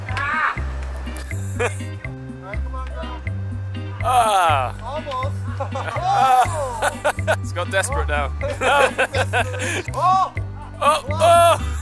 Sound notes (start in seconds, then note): 4.5 laughing